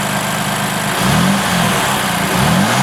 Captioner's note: sound of a fantastic engine